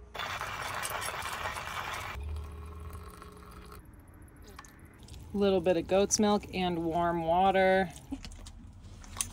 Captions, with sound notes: (coffee grinding) (water pouring) a little bit of goat's milk and warm water.